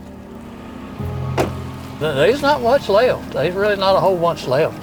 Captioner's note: door thumps